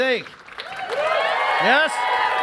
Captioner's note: cheering and applause